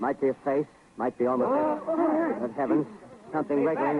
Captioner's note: crowd reacts in disbelief